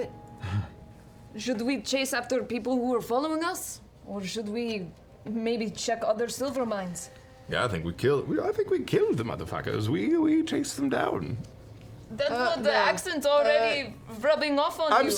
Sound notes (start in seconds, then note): 7.7 low voice; 8.5 normal voice